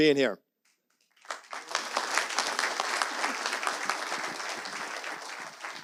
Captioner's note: audience applauds